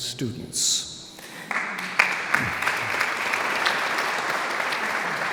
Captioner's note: audience applauds